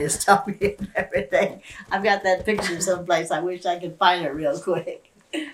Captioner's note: laughs